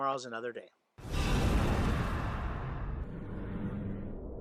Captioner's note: whoosh